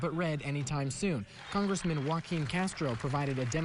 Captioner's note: applause